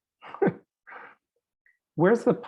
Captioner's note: chuckling